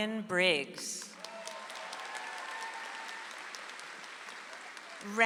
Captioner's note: audience applauds